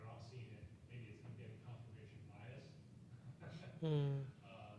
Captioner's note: laughs